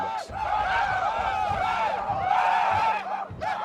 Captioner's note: shouting